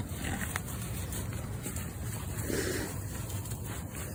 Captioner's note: moose grunting